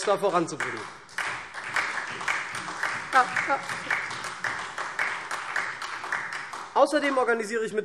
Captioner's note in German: Beifall SPD